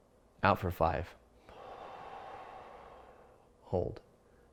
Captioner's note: exhales